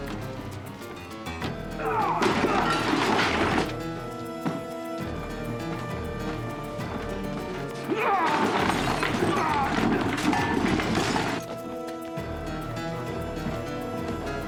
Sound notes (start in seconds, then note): 1.7 groans; 7.9 both grunting